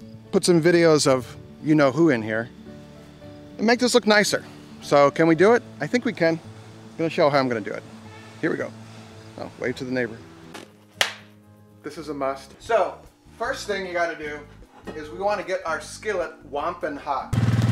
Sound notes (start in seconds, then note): 10.5 latex snapping; 10.6 latex squeaking; 17.3 four-wheeler engine purring